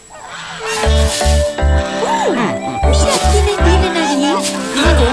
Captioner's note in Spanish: Música alegre; Sonido de patos